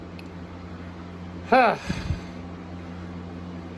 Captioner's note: Caprice sighs in frustration